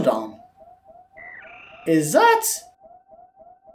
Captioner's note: Baby Metroid noise